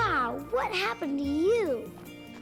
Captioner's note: scoffs